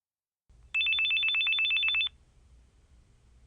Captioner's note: phone ringing